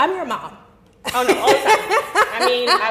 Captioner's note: laughing